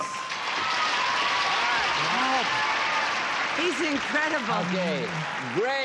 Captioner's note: applause